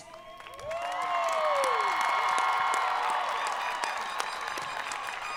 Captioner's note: audience applauding